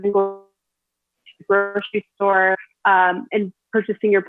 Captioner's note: audio distorts